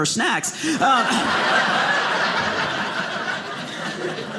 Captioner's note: audience laughing